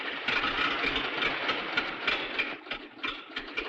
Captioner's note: engine rattling